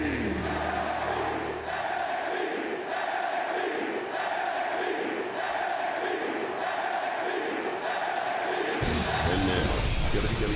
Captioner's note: crowd cheering